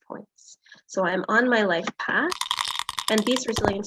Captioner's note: die rattling; die clatters